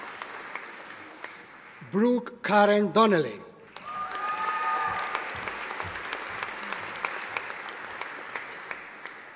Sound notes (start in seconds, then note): 3.7 audience applauding